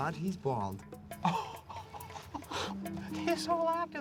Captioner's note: laughs; gasps